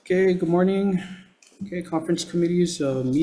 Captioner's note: gavel banging